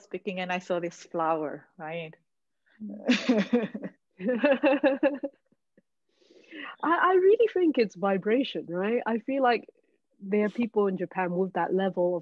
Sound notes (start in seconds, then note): 3.0 all laughing